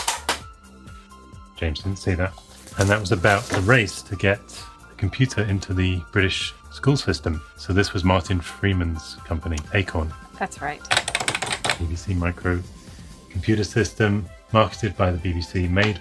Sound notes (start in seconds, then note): 10.8 keypad tapping